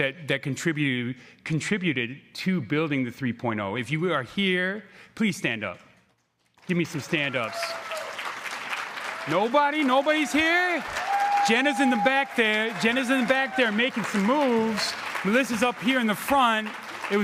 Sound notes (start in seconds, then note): 7.8 crowd cheering